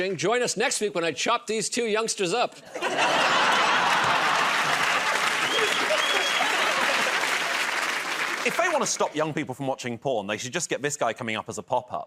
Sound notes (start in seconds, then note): 2.6 laughter; 3.3 applause